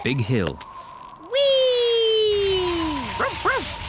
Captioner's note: wind whistling; barks